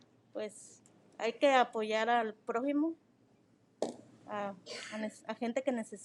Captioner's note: speaking in foreign language